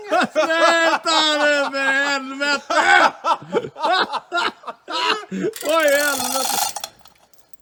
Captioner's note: laughs